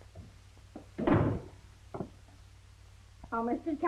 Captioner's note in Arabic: يُغلق الباب بقوة